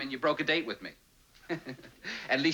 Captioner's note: laughs